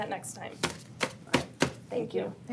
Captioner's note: papers rustle